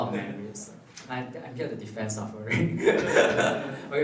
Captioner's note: laughs